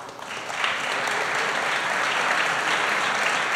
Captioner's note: applause